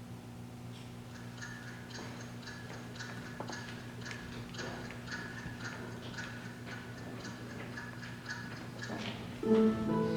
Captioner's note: clock ticking; romantic music